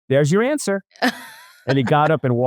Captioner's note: laughs